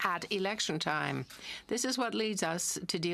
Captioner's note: speaking in French